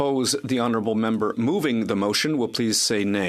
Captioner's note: speaking French